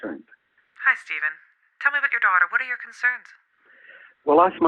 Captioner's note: counsellor, on the phone